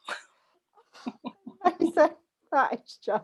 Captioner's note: laughter; laughter drowns out talking